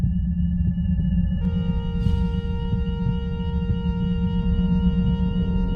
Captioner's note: alarm sounding